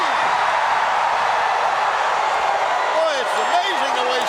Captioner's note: audience cheering